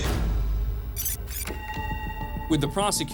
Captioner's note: tape stops